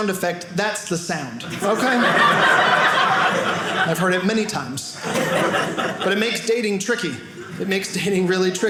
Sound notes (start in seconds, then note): 1.4 audience laughing